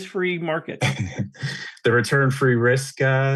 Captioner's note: laughs